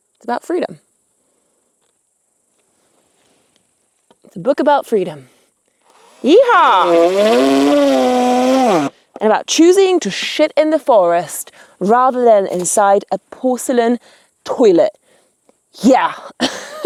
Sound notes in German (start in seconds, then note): 1.7 Grillen zirpen; 5.8 Elektrowerkzeug surrt; 16.3 kichert